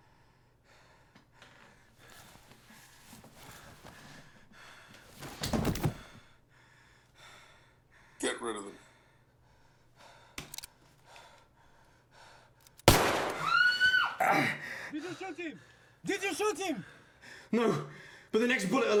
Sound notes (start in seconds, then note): 12.8 gunshot; 13.3 Layla screams